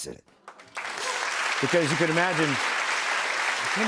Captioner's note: applause